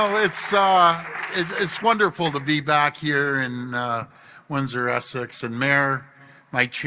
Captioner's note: applause